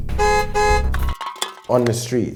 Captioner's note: car honks